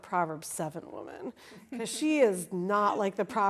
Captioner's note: laughing